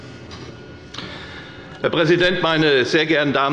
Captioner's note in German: none